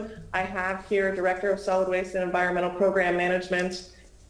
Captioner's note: ~audio distortion~; ~interference~